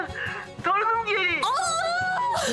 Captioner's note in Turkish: Bağırıyor